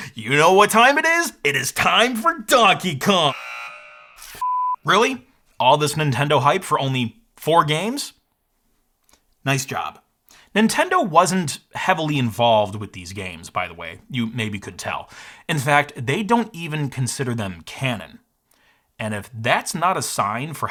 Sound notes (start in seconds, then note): 3.1 buzzer buzzes